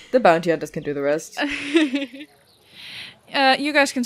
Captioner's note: crowd noises begin